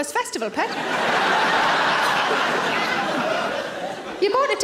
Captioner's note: audience laughter